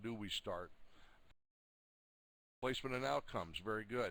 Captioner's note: audio drops